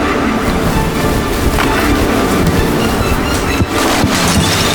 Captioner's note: waves crash; glass shatters